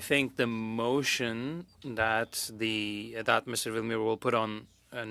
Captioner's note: speaking French